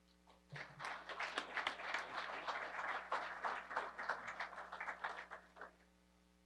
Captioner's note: applause